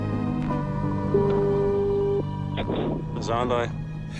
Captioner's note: dial tone